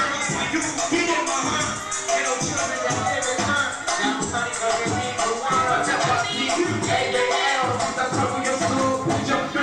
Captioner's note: speaking foreign language